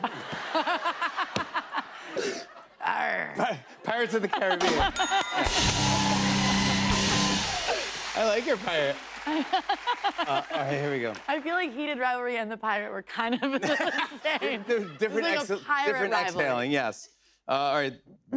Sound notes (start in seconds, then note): 0.0 laughter; 4.7 ding!; 4.9 cheers and applause